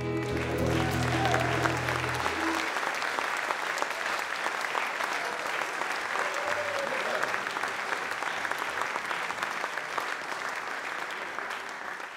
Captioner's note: audience Applause